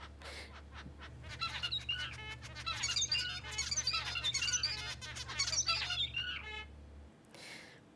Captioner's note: bird singing